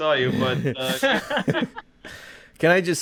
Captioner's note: laughing